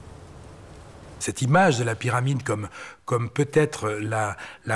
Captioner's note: French spoken audio